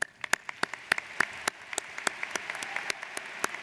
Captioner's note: audience applauds